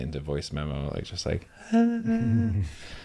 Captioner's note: hums